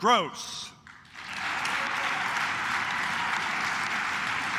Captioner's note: claps